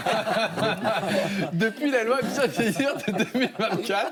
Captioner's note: laughter